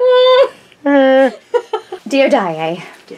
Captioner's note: groan